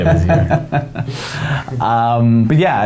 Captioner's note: laughing